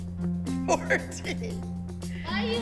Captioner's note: laughs